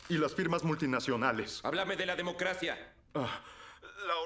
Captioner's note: voiceover